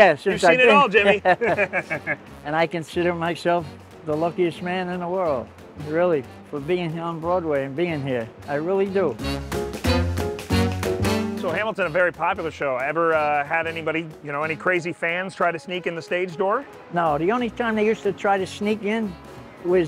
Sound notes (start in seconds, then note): 0.9 both laughing; 9.6 lively jazz music continues